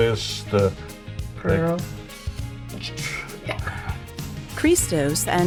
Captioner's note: laughs